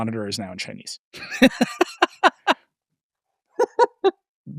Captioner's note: laughing